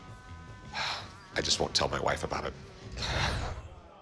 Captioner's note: sighs